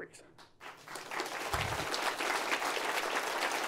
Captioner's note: applause